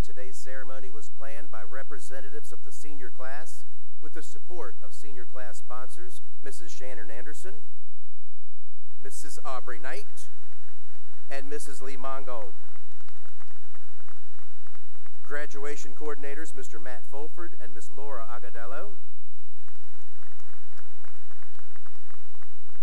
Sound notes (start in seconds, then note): 8.3 applause; 19.4 applause